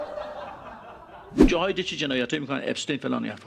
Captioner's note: laughter